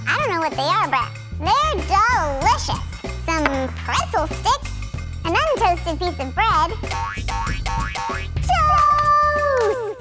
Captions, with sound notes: I don't know what they are but they're delicious. Some pretzel sticks, un-toasted piece of bread. (spring recoiling) Toast!